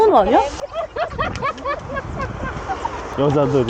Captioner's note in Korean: 호탕한 웃음소리